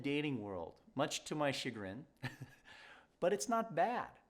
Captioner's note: chuckles